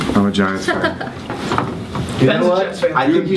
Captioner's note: laughs